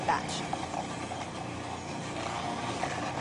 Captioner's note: whirring